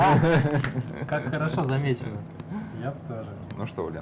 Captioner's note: laughing